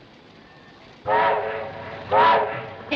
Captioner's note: whistle Blowing